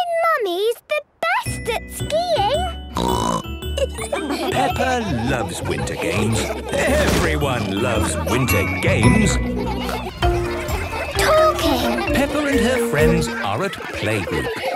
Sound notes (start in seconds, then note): 2.9 snorting; 3.6 laughter